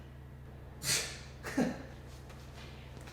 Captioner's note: scoffing, chuckling, a light tapping of the shoulder